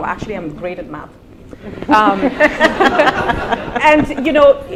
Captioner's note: laughter